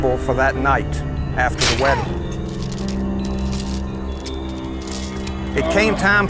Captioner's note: bear trap clicks